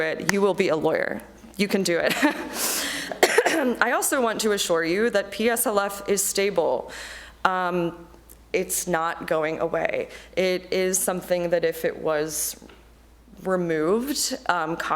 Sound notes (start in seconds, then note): 2.1 chuckles; 2.2 coughs